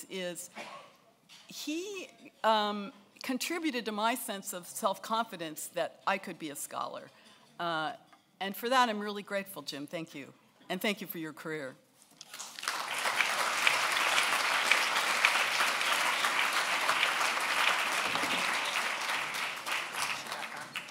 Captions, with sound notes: is he contributed to my sense of self-confidence that I could be a scholar, and for that I'm really grateful, Jim. Thank you, and thank you for your career. (applause)